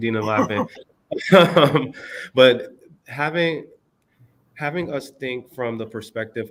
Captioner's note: laughter